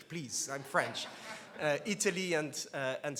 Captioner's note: laughs